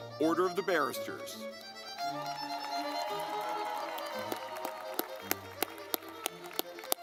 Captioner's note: lively music; audience clapping